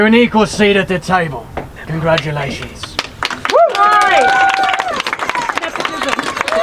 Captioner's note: audience cheering